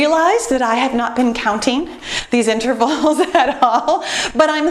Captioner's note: laughs